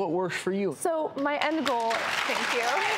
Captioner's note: audience applause